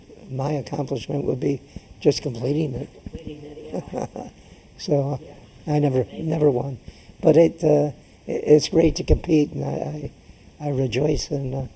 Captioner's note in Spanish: laughs